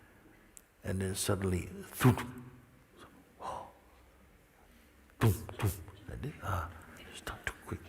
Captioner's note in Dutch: bootst geluid na van een schop die een kist raakt